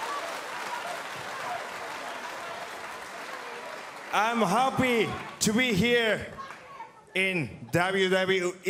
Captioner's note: cheers & applause